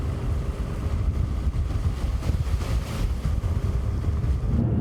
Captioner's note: road noise